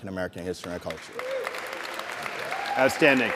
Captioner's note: applause and cheering